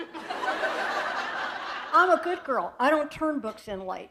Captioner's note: laughter